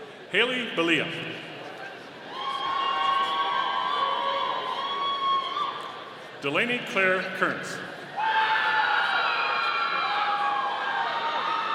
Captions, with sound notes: Hayley Billiot. (audience cheering) Delaney Clare Kearns. (audience cheering)